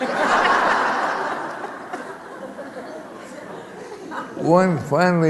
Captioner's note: laughter